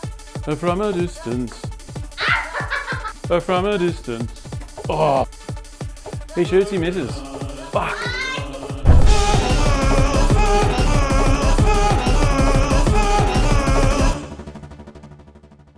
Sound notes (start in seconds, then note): 2.2 laughing